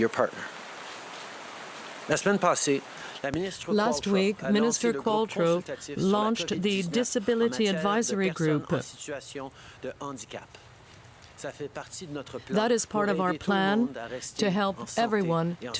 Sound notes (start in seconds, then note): 5.3 speaking french